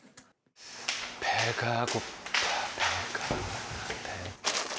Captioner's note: humming again